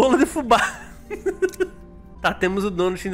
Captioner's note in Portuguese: risos